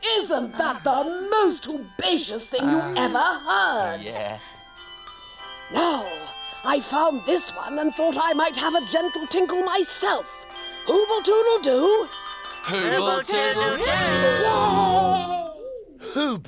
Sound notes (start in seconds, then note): 11.7 bell ringing